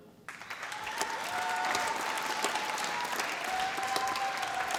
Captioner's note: applause